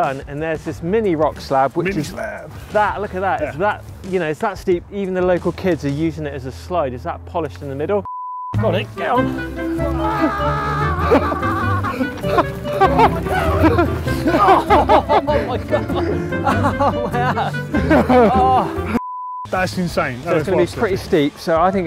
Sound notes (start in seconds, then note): 8.0 beep; 10.0 screaming; 12.1 laughing; 17.7 laughing; 19.0 beep